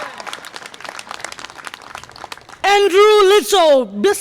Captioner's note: audience applause